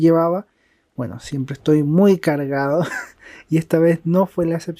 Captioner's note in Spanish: risas